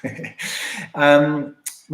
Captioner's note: giggles